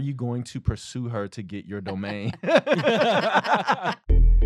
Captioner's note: laughter